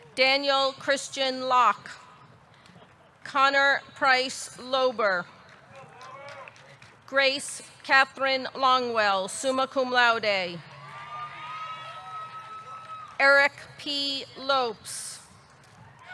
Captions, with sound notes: Daniel Christian Locke. Connor Price Loeber. Grace Catherine Longwell, summa cum laude. (audience cheering) (audience clapping) Eric P. Lopes.